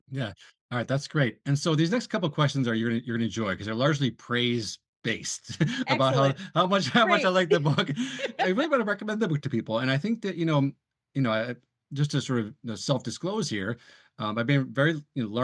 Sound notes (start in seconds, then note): 5.2 both laugh